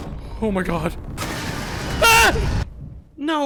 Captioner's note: yells